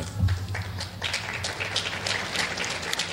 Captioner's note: clapping